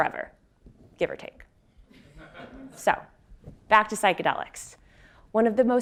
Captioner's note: laugh